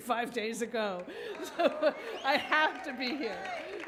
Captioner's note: audience cheers